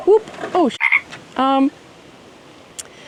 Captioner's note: ribbit